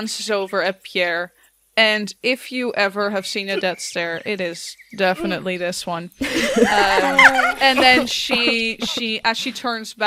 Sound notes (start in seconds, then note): 6.2 laughter; 6.3 groans